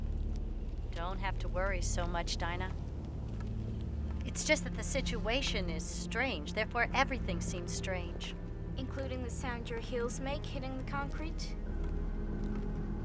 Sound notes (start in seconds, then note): none